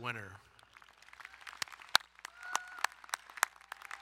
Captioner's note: applauding